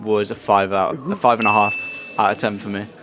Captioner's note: bell dinging